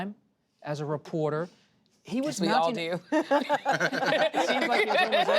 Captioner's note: laughter